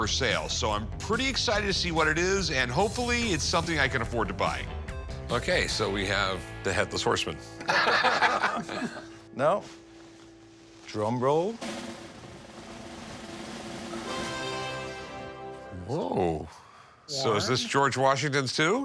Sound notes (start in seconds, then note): 7.6 laughter; 11.5 drumroll playing; 14.1 fanfare plays